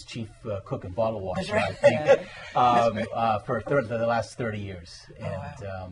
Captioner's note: laughter